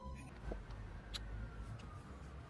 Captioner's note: kiss sound